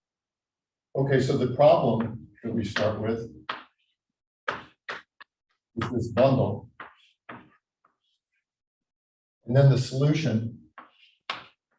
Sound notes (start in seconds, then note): 4.4 chalkboard tapping loudly; 6.7 chalkboard tapping loudly; 11.2 chalkboard tapping loudly